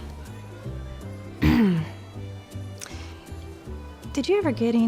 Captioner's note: clears throat